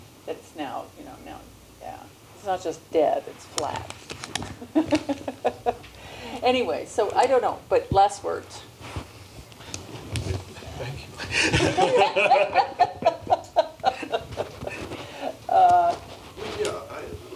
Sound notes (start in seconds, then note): 4.6 laugh; 11.3 laughter